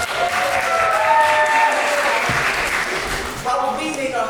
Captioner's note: cheering and applause